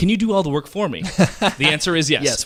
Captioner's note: laughing